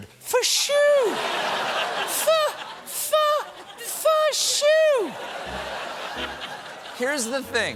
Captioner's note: laughter